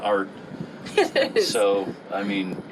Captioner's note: laughs